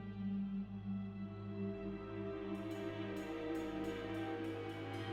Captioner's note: none